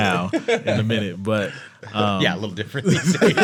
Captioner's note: all laughing